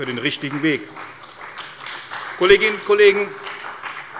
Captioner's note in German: Beifall bei der CDU und dem BÜNDNIS 90/DIE GRÜNEN